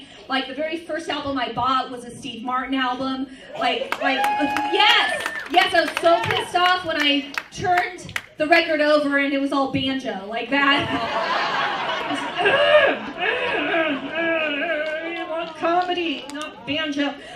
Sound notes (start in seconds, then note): 3.6 cheers, applause; 10.8 laughter